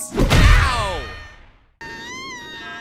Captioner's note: basketball screams